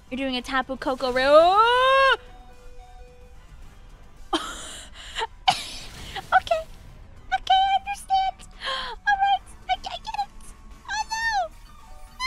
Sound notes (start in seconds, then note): 4.5 laughing; 7.3 whispering